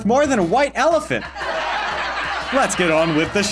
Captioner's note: cheesy laugh track